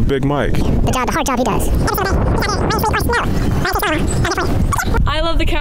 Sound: sped up audio sound effect

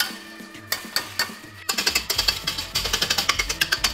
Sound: tapping

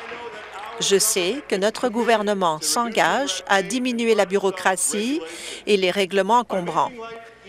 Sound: applause

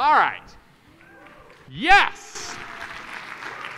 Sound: audience applauding

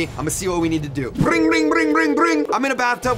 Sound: imitates phone ring

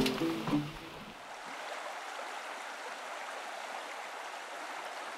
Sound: water gurgling

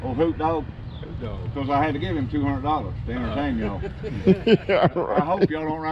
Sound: crowd laughs

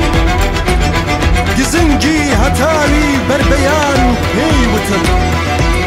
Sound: in Kurdish

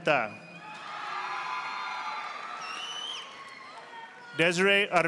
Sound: audience applauding

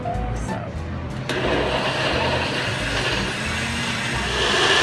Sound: blender whirs

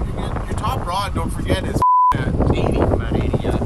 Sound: beep

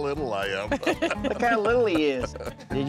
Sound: laughing

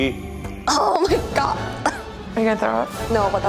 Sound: coughs

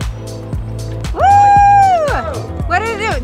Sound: cheers

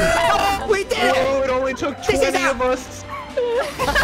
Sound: laughs

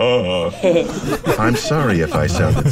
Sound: laughter

